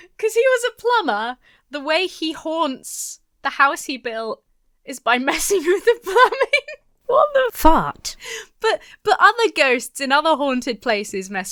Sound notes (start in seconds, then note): 5.7 giggles